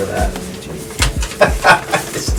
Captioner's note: laughing